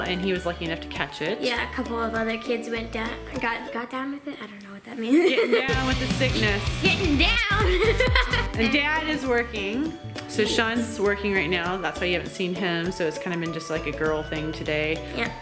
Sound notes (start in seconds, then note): 5.6 rock music; 7.5 laughs